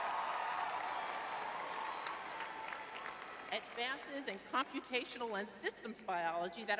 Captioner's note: audience cheering